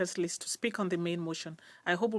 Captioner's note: speaking French